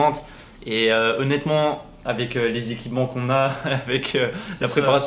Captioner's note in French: rires